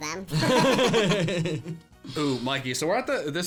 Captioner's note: laughing